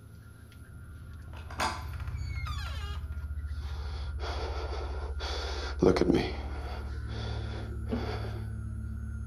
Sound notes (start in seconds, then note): 1.2 door creaks; 1.3 lock clicks; 6.2 heavy breathing